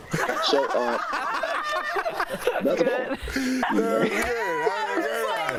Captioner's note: laughter